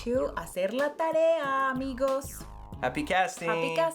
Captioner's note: speaks foreign language